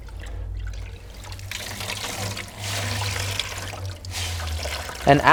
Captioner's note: water pouring